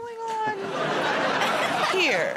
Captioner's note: laughter